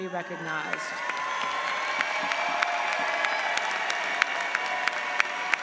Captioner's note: audience applauds